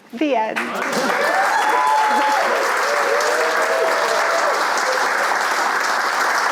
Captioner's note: audience cheering and applauding